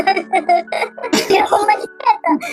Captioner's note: laughs